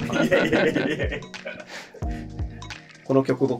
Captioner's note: laughing